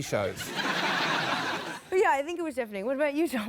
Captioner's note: laughter